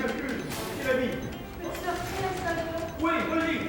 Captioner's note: gunman speaking French; hostage speaking French; gunman speaking French